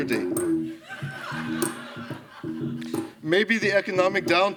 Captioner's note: laughter